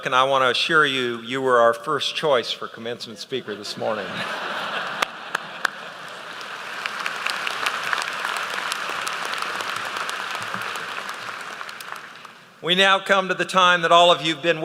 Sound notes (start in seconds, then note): 3.6 laughter; 4.9 applause